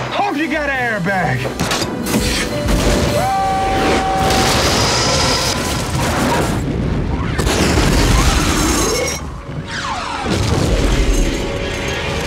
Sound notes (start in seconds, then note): 3.6 fire clouds exploding